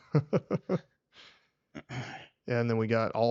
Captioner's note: laughing